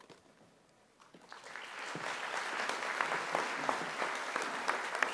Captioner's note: audience applauding